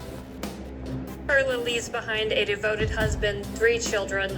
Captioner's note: on TV